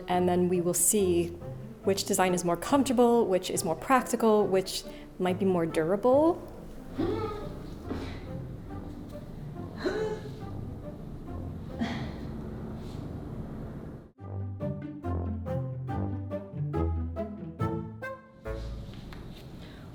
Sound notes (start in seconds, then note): 7.0 grunting; 14.1 playful music